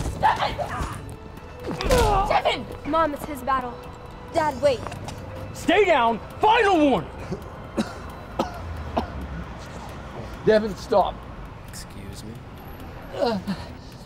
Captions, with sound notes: - Devon! (grunting) Devon! - Mom, it's his battle. Dad, wait. - Stay down, final warning! (coughing) - Devon, stop. - Excuse me?